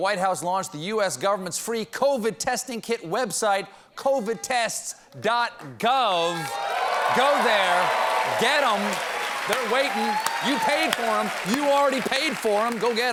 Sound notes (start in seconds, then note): 6.3 cheers and applause